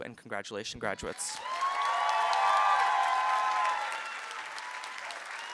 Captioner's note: applause and cheering